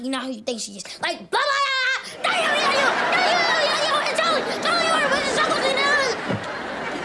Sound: screaming

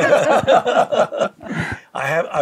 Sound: laughing

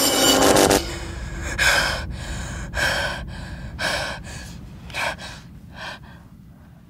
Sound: heavy breathing

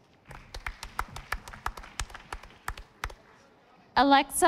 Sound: audience applauding

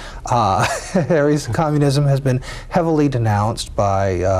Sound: laughs

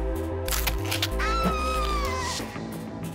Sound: woman screaming

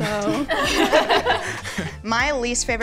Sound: all laugh

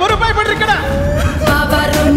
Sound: sobs

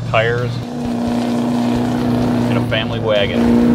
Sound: engine roars

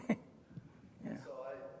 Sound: laugh

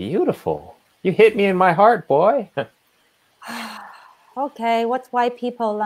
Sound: chuckles

